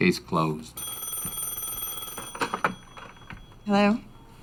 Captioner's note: phone rings